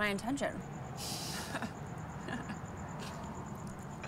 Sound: laughing

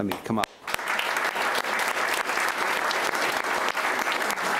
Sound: applauding

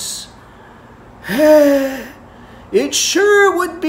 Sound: deep sigh

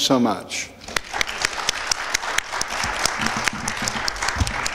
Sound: audience applauds

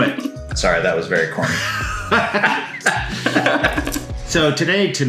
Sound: laughing

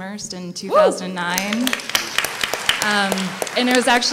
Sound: applause

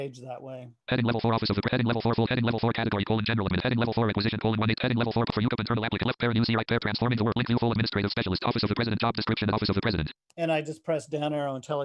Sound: screen reader reads fast

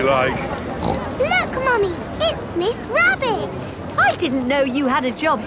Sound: snorts

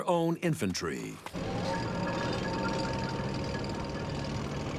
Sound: tanks rumbling

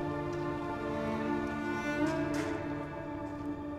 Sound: door opens

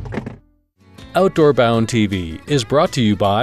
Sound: cooler clattering

